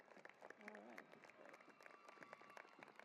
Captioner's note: applause